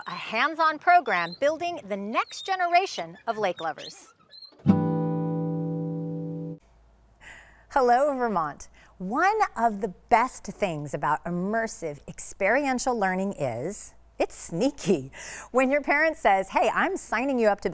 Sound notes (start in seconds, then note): 4.3 birds squeaking; 4.7 gentle music